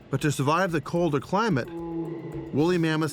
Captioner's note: woolly mammoth bellows